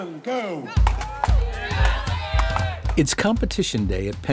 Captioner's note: cheering